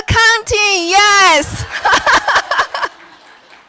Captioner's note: laughter